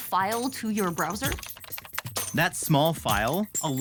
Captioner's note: keys clacking